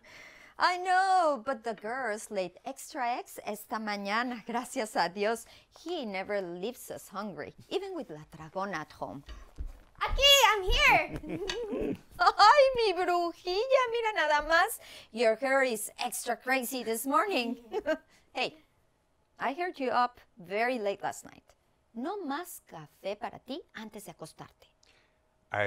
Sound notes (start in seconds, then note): 11.0 laughing; 17.3 abuela chuckling